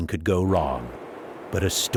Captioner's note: heavy wind